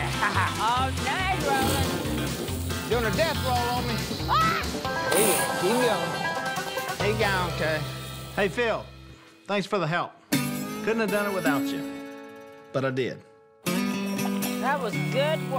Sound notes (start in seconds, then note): 4.2 screams